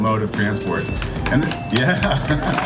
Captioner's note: cheering and clapping